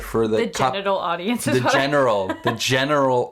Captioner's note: laughs